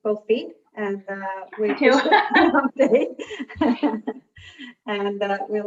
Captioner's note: both laughing